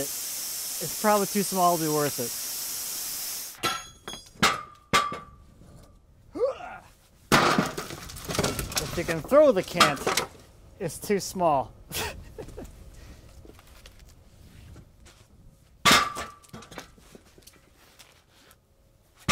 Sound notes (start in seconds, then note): 3.6 metal clanging; 6.3 grunting; 7.3 wood clattering; 11.8 laughs; 15.9 metal clanging